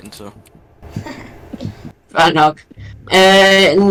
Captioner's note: laughs